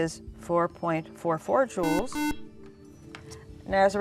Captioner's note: buzzer